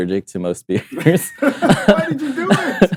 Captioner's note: laughs